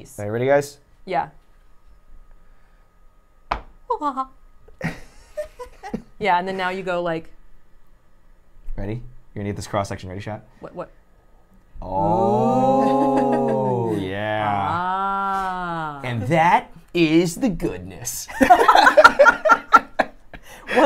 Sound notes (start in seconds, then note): 3.5 cleaver thuds; 4.8 laughs; 18.4 laughs